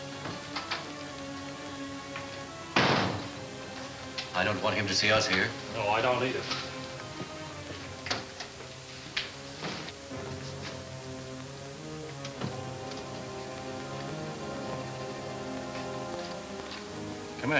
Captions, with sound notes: (door closing) - I don't want him to see us here. - No, I don't either. (pensive orchestra music) Come in, Jim.